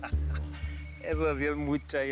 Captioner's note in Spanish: suena el celular